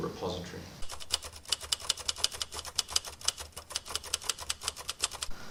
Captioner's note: typewriter clicking